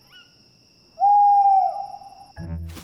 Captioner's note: owl hoots